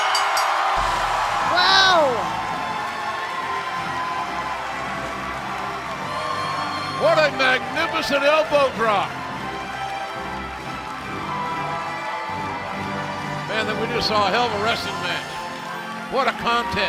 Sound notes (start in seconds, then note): 0.0 bell ringing; 6.3 cheers and applause